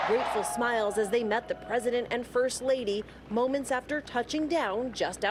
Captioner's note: cheers and applause